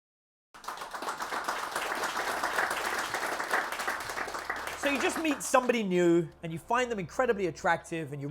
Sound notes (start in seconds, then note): 0.5 audience clapping; 2.4 soft music